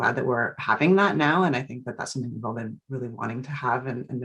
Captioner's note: speaks faintly